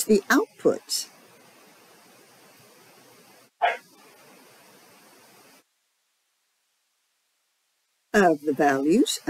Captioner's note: dog bark